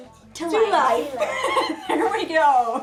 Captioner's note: laughing